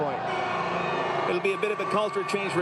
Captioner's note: applause